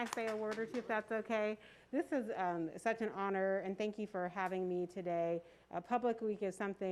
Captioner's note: applause